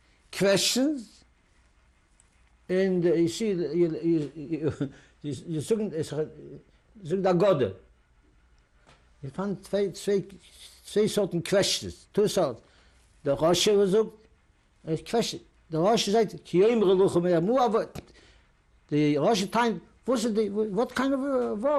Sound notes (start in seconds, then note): 7.8 non-english; 14.0 non-english; 16.2 non-english speech